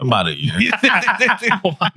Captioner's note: laughing